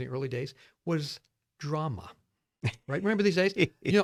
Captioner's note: laughs